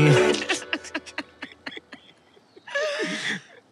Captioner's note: Both laughing